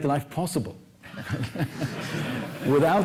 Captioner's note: laughter